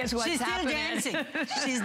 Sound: laughter

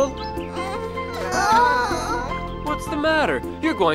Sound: groaning

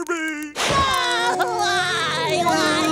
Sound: crying

